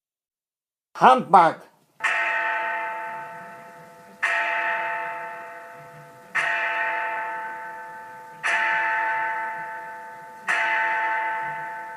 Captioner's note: Big Ben strikes twelve